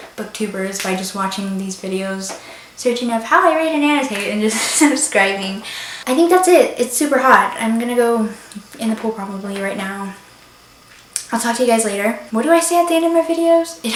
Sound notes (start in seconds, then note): 4.5 laughs